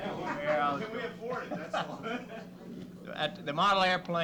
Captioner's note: laughter